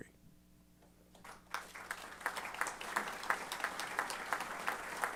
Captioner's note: applause